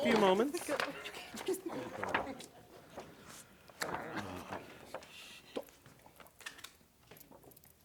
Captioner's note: shuffling